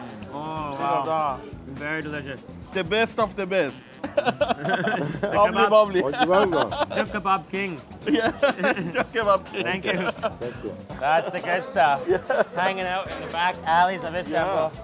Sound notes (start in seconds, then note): 3.6 laughs; 5.6 speaking foreign language; 7.7 laughs